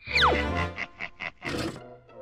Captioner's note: chittering laugh